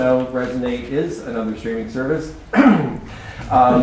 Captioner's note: cough